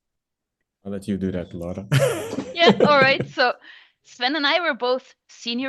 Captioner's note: laughs